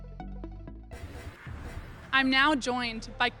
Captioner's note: scene whooshing